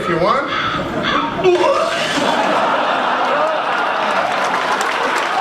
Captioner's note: vomits